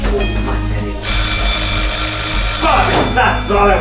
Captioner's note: phone is ringing